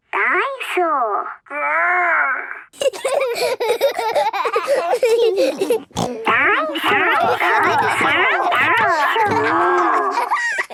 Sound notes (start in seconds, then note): 3.1 giggling; 4.6 snorting